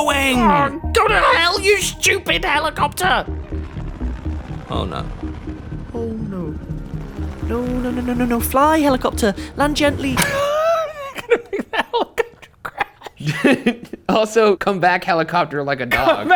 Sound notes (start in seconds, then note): 4.1 helicopter blades whirring; 10.2 laughs